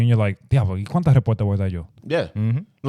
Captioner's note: speaking In Foreign Language